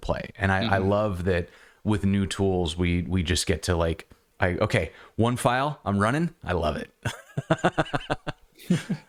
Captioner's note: laughter